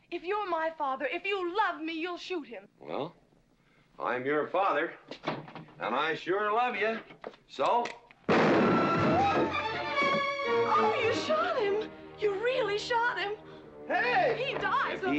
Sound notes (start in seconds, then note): 8.3 gun firing; 8.6 tense music